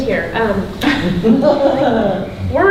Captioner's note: woman laughing